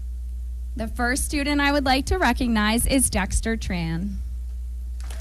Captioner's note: applause